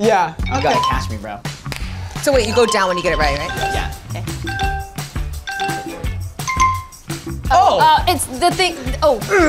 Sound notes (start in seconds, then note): 2.5 app chimes; 4.6 app ticking; 4.6 upbeat funky music